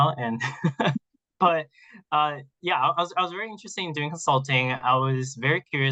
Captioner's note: laughs